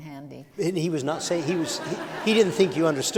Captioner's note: laughter